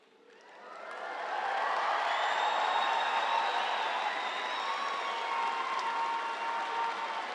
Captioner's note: audience applauds; audience cheering